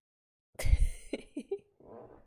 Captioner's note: laughs